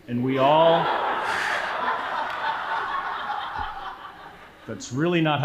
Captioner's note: audience laughing